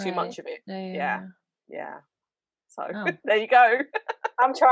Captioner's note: giggles